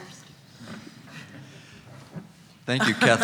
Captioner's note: laughs